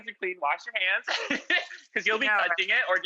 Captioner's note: laughs